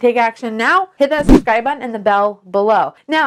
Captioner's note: whooshing air